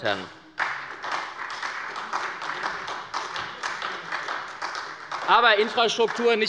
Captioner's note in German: Beifall bei der SPD